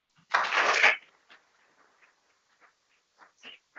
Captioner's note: people clapping